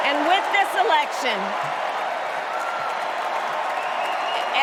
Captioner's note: cheers and applause